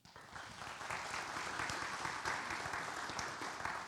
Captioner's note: audience applauds